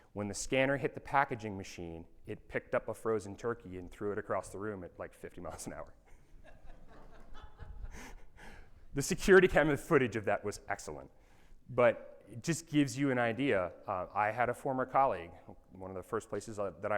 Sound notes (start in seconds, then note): 6.4 audience laughing